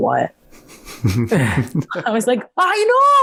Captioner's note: both laugh